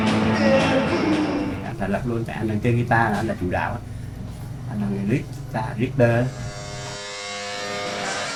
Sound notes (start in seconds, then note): 1.3 speaking foreign language